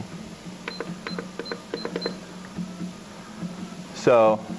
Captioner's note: beeps